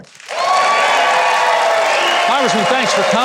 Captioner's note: audience cheering